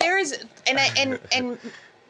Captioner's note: laughter